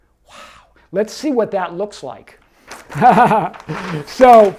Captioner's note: laughs